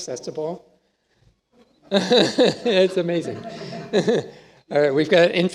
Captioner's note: laughs